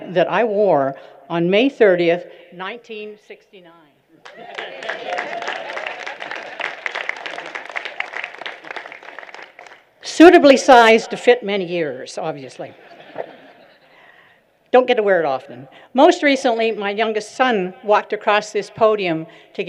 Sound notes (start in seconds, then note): 4.2 applause